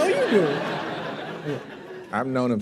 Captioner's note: laughter